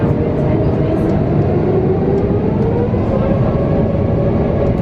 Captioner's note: low engine hum